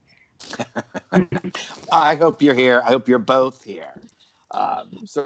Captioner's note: laughter